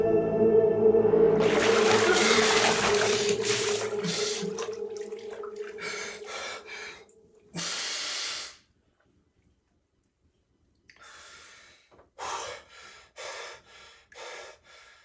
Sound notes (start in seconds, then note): 1.3 water splashing; 1.6 Aiden gasping; 11.1 Aiden exhaling; 12.2 Aiden panting